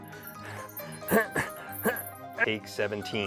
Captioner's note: grunting